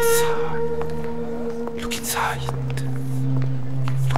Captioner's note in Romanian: șoaptă: uită-te înlăuntru